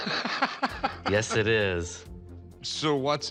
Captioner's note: laughs